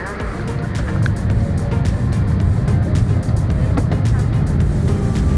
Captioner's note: engine rumbling